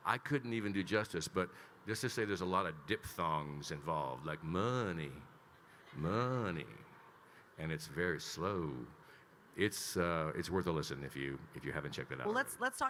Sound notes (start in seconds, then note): 5.9 attendees laughing